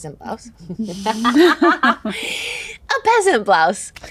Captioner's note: all laugh